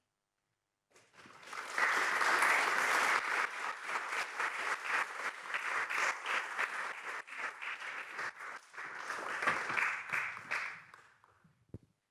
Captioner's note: applause